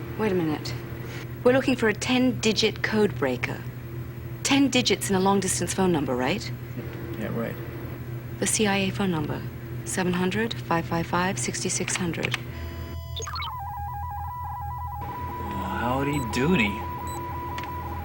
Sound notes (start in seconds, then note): 12.8 digital bleeping